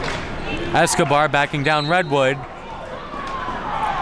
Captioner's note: whistle blows